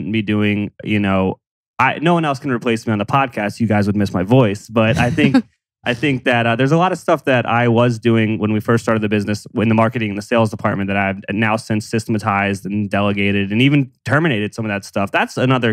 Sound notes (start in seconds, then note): 4.7 laughs